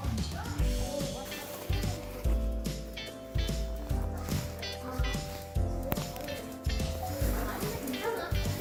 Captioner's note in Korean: 킁킁킁